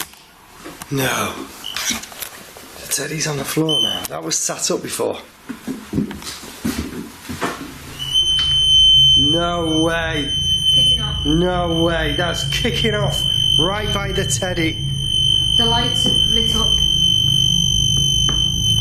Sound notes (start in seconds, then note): 8.3 metre screeching